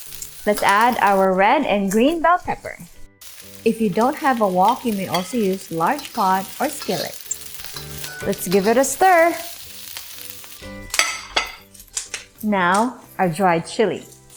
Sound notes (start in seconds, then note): 7.3 oil sizzling; 8.1 sizzling; 10.9 spatula thuds; 12.1 oil sizzling